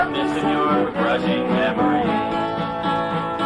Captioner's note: none